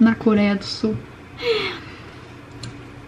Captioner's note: sigh